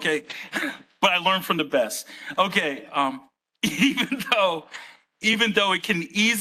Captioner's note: laughs